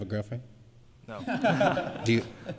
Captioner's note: laughter